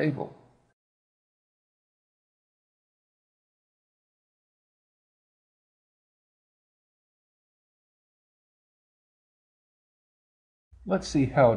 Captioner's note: silence